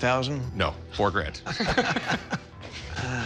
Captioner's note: laughter